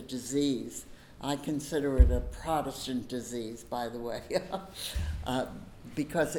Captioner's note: laughs